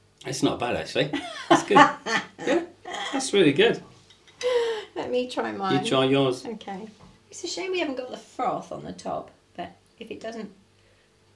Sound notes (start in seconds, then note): 1.2 laughs